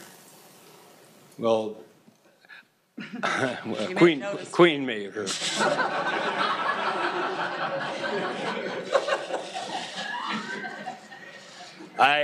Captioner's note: laughter